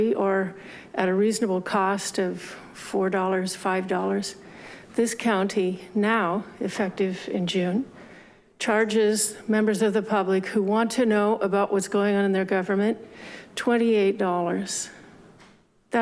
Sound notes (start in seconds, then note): none